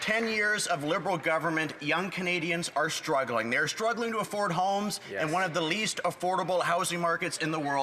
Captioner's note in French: voix de l'interprète